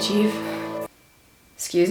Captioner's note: music abruptly stops